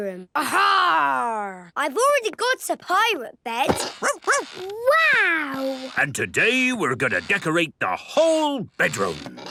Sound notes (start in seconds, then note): 4.0 barking